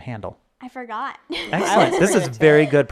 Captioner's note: laughing